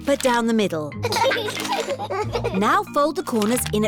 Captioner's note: both giggling